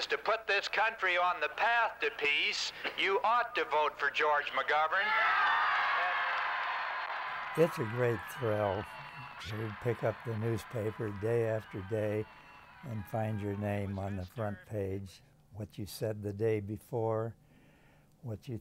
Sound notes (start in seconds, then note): 5.3 crowd cheering